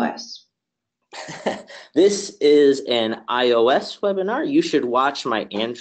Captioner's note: chuckles